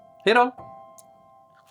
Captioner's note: in Swedish: Bye bye!